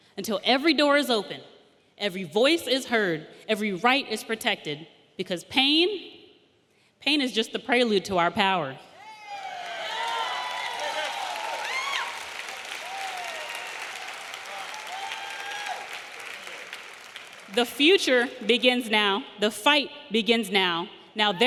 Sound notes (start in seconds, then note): 9.1 audience cheering; 9.5 audience applauding